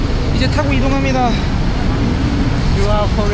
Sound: motorcycle

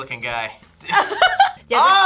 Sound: laughs

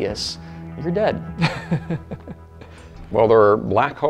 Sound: laughs

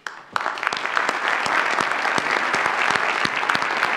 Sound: audience applauds

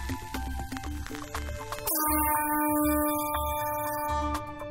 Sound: sizzling; horn blowing

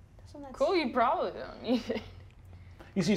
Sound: laughs

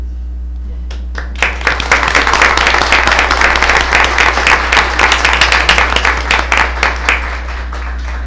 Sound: applause

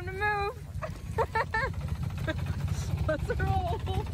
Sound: laughing

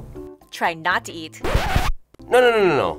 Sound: record scratches

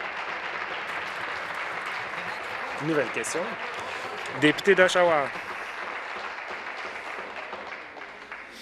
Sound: applause

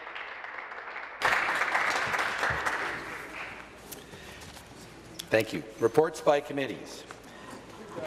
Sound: some Applause

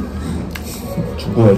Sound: laughing

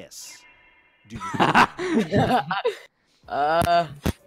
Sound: laughter

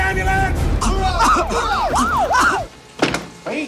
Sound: ambulance sirens

